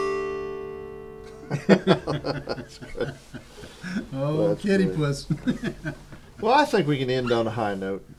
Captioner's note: laughter